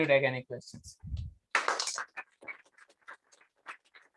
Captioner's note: applause